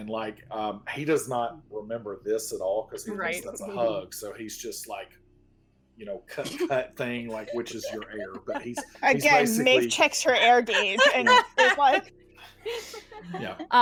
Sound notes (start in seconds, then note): 7.2 everyone laughs